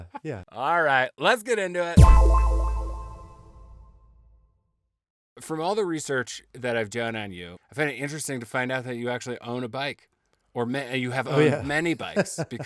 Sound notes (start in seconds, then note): 2.0 tone echoing